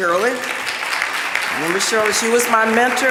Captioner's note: audience clapping